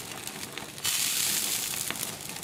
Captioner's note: sizzle